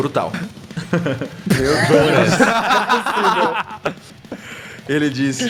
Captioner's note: laughter